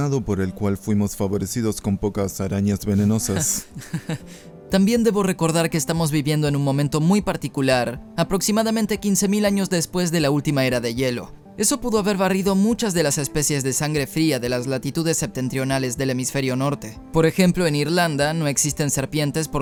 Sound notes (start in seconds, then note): 3.0 risas